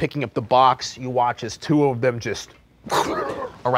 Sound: monsters growling

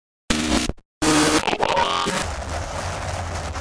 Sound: static sound

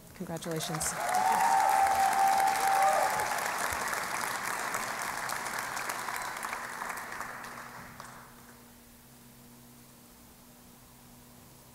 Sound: cheering and Applause

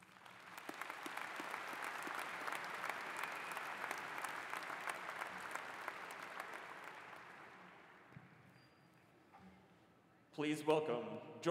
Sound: applause

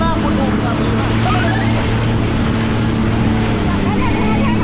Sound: engine rumbling

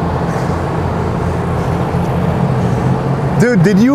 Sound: engine roaring

